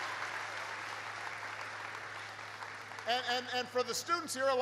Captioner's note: applause